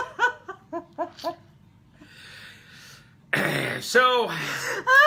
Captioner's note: laughing still; clears throat